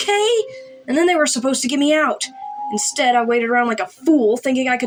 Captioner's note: none